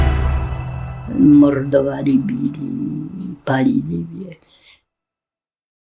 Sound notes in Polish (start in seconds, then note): 0.0 intensywna muzyka, dźwięki wystrzałów; 1.0 kobiecy głos